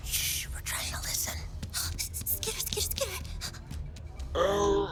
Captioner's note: suddenly interested, whispers; whispers back; Nom "skitter skitter skitter"s off, vocalizing as such along the way